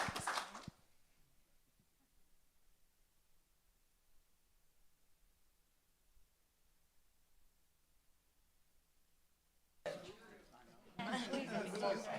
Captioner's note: applause